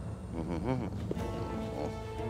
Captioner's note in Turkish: Gülme sesi